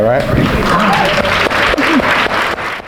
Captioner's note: audience applauding